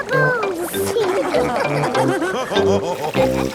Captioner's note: all laughing